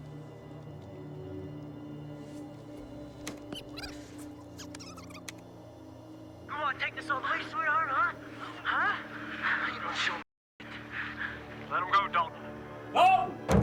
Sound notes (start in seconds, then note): 3.1 tape squeaking; 13.4 fists thudding